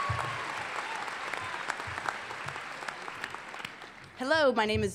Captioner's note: applause